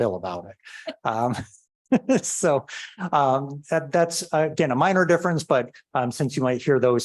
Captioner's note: laughter